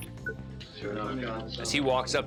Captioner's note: indistinct chatter